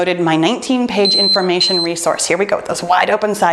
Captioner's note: timer beeping